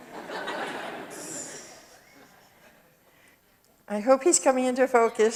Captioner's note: audience laughs